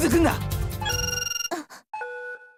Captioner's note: gasp